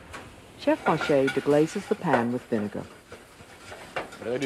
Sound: voiceover

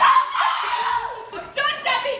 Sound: screaming

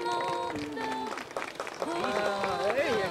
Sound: congregation claps

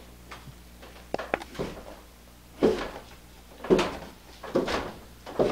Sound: footsteps

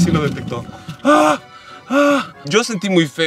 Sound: sighs relieved

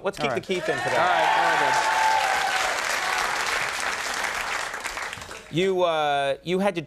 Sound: audience applauding

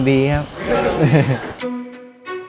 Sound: chuckles

